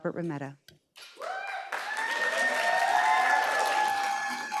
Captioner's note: audience applauds